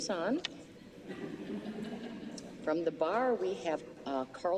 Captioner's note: laughter